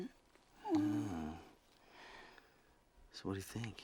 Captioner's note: both gasp